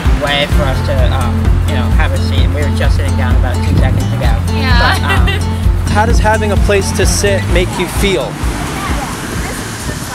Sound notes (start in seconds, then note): 4.6 laughing